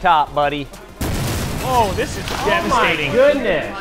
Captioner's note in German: explosion